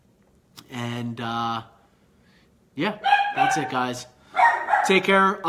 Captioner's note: dog barking